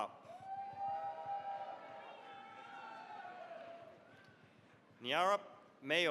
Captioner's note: cheering, applause